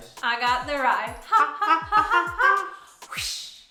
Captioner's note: laughing